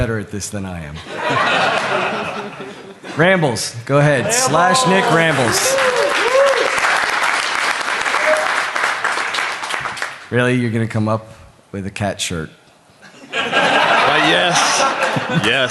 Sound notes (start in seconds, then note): 1.0 laughter; 8.0 laughter